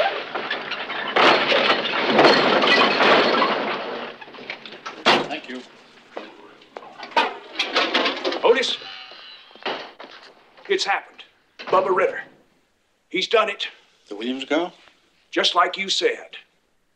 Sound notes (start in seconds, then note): 1.2 truck rattling